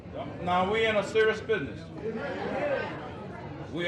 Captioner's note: crowd agreeing